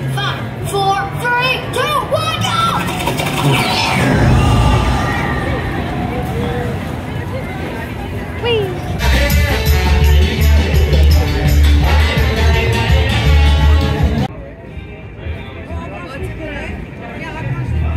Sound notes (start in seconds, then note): 2.2 train sputters; 9.1 upbeat music